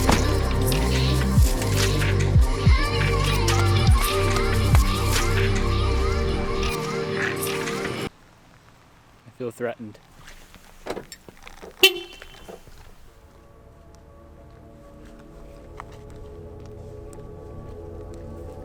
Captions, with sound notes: (car door thuds) I feel threatened. (car lock thuds) (car beeps) (gentle music)